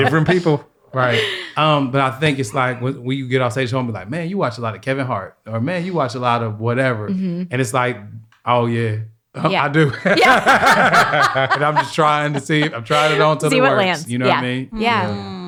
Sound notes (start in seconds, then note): 9.9 all laugh